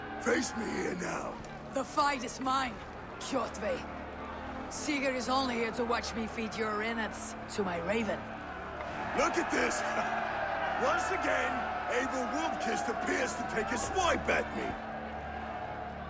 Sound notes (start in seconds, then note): 10.0 laugh